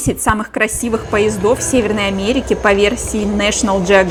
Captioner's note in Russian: Звук от поезда